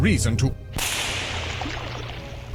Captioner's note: loud crack